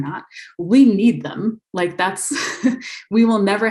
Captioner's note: laughs